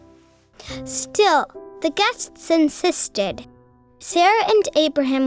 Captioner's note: voiceover